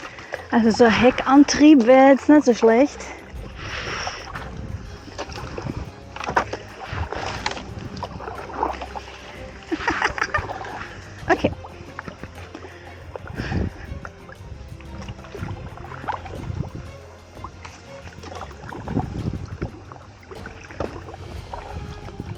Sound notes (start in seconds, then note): 5.8 paddling sound & pirate music; 9.2 laughing; 16.1 paddling sound & pirate music